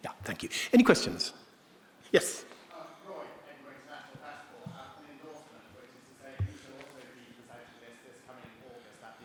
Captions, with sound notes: - Yeah. Thank you. Any questions? Yes. (participant faintly speaking)